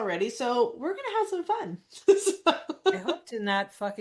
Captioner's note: laughs